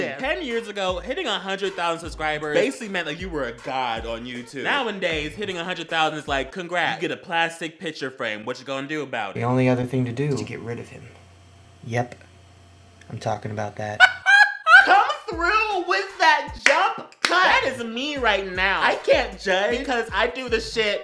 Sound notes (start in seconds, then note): 13.9 again with the amazing gAY LAUGHTERRRR